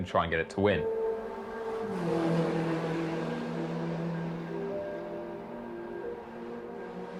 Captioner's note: melancholy music; car engine roaring